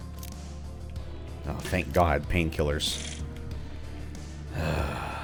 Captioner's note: heavy sigh